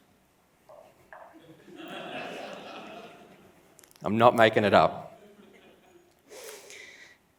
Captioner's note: laughs